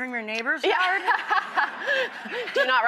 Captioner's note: laughs